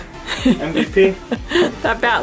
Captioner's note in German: lacht